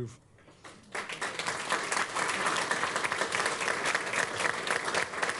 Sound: applause

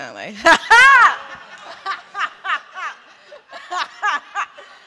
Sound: laughter

